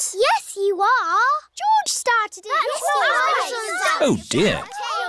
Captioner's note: all arguing